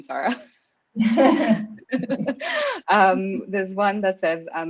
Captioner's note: chuckles